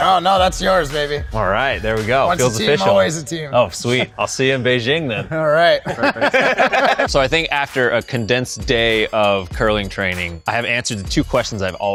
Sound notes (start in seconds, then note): 5.0 laughs